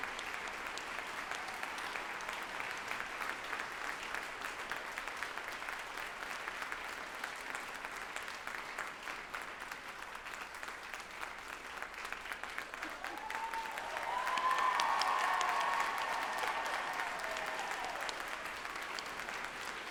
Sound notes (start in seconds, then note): 14.4 group applauding and cheering loudly